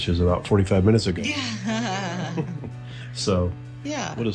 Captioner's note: laughs